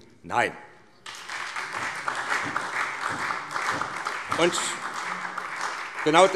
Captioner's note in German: Beifall SPD